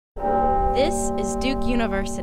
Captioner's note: bell ringing